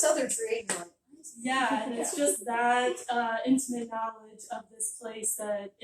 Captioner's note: offscreen giggling